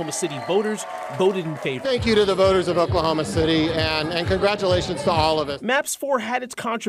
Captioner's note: applause